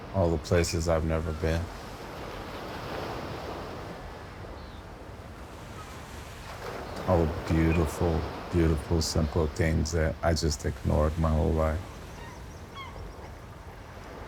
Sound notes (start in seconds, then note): 2.9 waves continue, an insect chirps